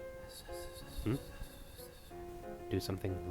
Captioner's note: whispering; more whispering